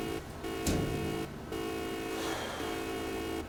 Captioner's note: beeping; clanking; beeping; breaths